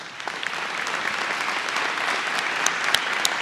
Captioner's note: applause